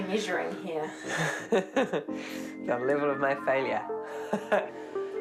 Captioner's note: chuckles